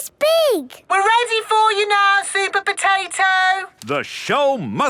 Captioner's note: through megaphone